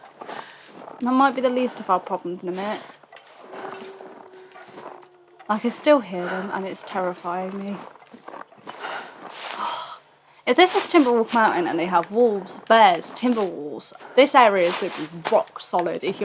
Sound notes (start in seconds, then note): 9.5 sigh